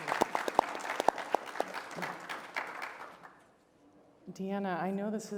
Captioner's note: applause